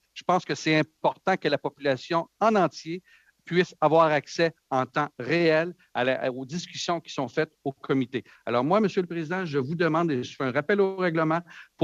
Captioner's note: speaking French